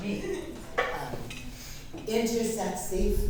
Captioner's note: laughing